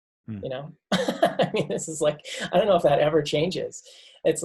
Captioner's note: laughs